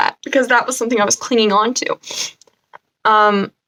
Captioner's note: sniff